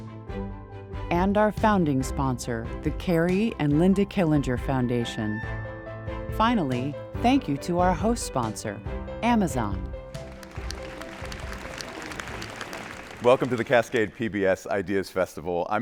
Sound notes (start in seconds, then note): 10.1 attendees applauding